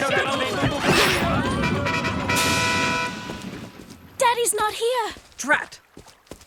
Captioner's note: squabbling